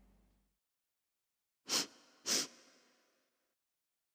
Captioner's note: sniffing